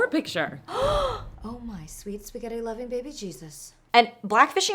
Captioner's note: gasps